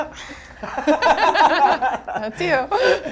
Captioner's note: laughing